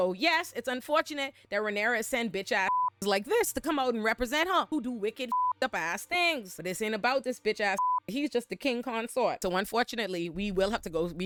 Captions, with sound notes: So yes, it's unfortunate that Renara send bitch ass (beep) like this to come out and represent her who do wicked (beep) ass things. This ain't about this bitch ass (beep) he's just the King consort. So unfortunately we will have to go,